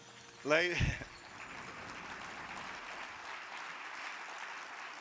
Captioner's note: audience applauding